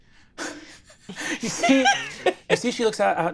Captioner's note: chuckles